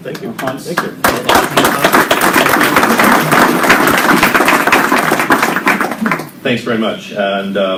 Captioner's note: applause